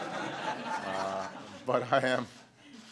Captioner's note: laughter